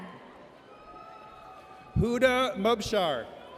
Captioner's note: audience cheers